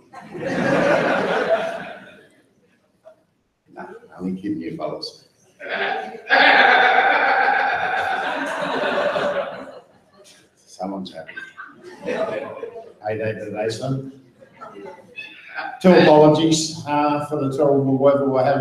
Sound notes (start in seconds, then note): 0.0 audience laughs; 6.3 audience member laughs; 8.4 audience laughs